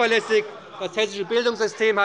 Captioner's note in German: Zurufe von der CDU